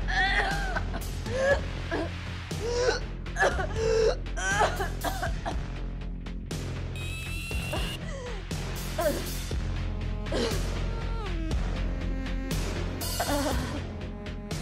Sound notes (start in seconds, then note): 0.3 coughing; 0.3 gasping; 6.5 coughing; 6.5 dramatic music